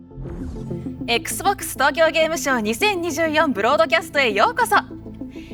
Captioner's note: speaking Japanese